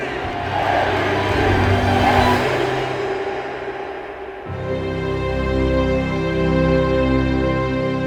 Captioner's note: chanting MVP